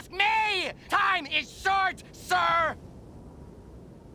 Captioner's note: none